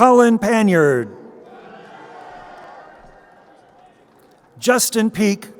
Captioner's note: crowd cheering